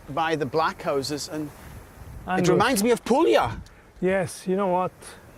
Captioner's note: with Italian accent